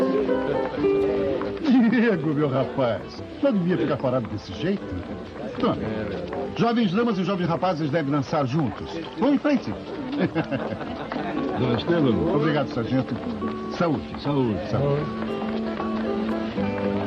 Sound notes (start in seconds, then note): 9.7 chuckles